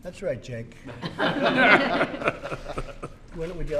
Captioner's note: laughter